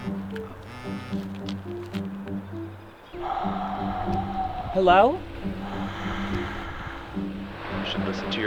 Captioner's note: phone buzz; breathing noises